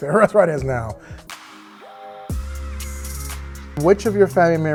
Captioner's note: chuckling